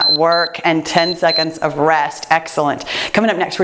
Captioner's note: timer beeps